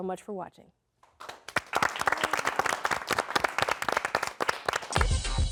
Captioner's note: applause